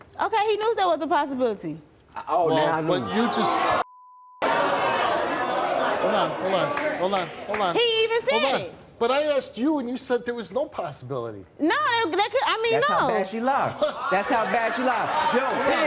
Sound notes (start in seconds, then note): 4.4 audience jeering